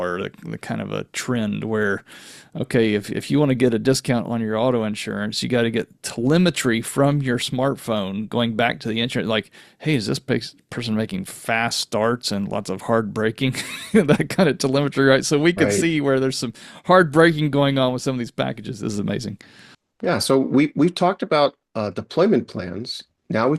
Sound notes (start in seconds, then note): 13.6 laughs